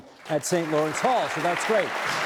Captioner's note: audience applauding